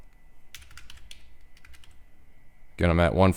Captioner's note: typing